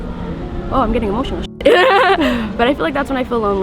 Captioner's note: laughs